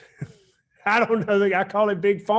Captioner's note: chuckles